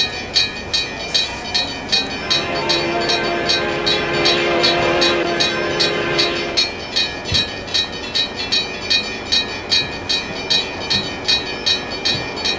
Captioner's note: H-24-66 Trainmaster horn